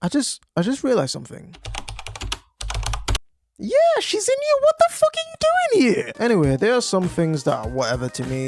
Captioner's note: typing